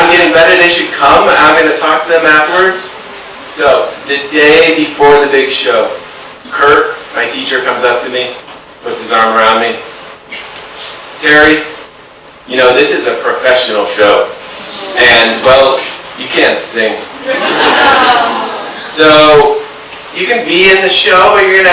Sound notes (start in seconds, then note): 17.2 audience awws